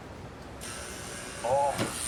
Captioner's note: door buzzing